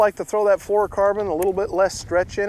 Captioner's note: none